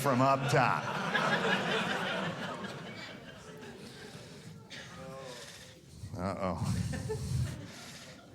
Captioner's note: audience laughing